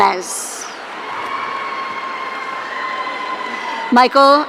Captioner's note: audience cheering